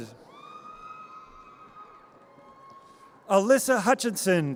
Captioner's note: audience cheers